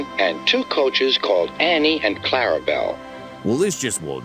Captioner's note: through a voice box